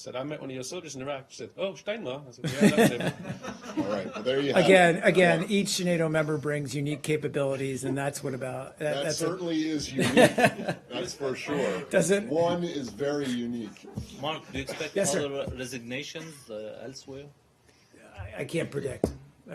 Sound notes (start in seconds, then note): 5.6 laughter; 11.6 laughter